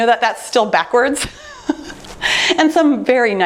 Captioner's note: laughs